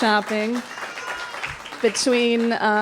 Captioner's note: applause